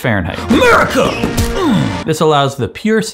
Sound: fireworks exploding

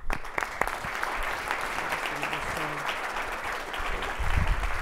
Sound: audience applauding

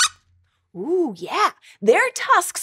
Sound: squeaks squeaks

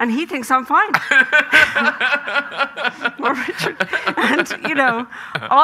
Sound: Graham laughing

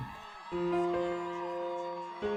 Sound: cheering; melancholy music

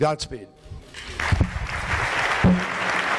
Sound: audience applauding

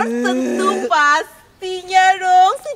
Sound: laughs

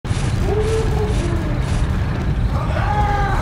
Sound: Pyro mumbling happily

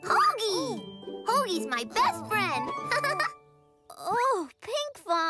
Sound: laughs

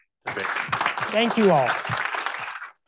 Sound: audience applauds

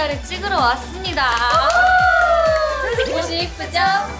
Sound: applause~~

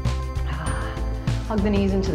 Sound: exhales

